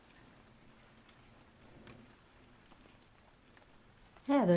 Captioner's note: rain pattering